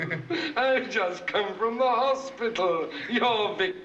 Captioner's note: laughs